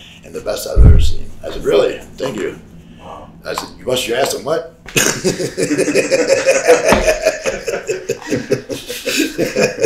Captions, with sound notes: and the best I've ever seen." I said, "Thank you." - Wow. - I said, "You bust your on what?" (laughs)